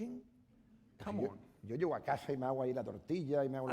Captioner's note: speaking spanish